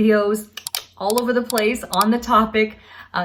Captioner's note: clicking